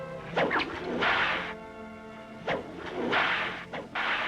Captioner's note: cracking whip